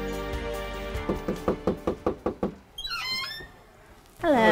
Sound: door knocks

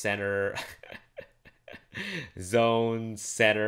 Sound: laughs

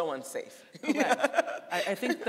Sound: laughing

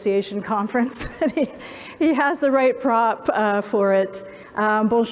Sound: laughs

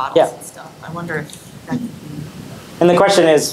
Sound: audio cutting out

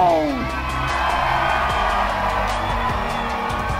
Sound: crowd cheering

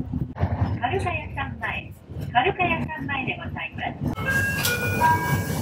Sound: bus annoucement in japanese

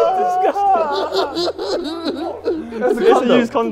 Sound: Ethan laughing

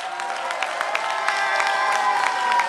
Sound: applause

